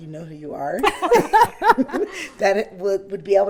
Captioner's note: business leaders laugh